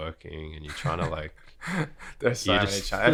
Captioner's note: laughter